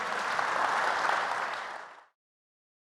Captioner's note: applause